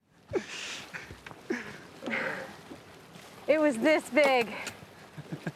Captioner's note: laughter